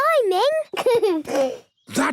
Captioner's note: giggles